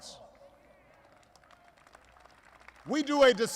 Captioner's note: applause